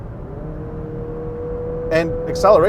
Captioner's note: engine revving